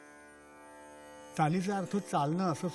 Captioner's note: in Marathi